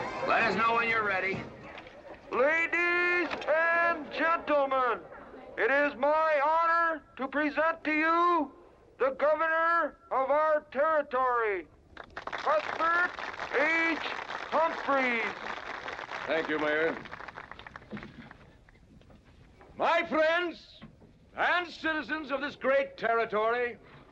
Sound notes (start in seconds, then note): 12.0 crowd applauding